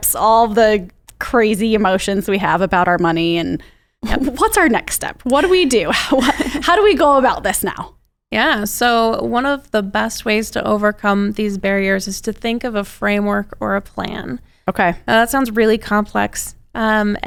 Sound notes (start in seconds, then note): 5.3 laughs; 5.4 chuckles